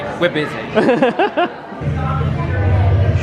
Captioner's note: laughs